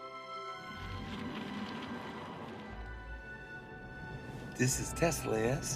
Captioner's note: car and road noise